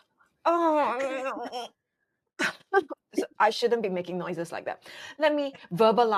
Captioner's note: making groaning noises